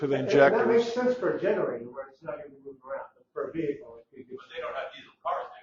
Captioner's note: indistinct chatter